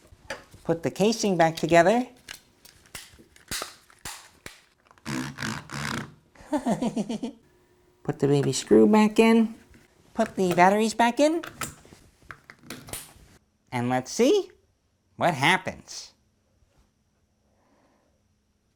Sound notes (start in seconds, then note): 4.9 rubber buttons rubbing on table; 6.4 giggles